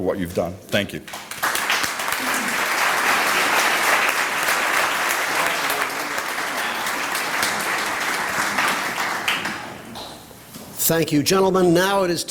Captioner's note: applause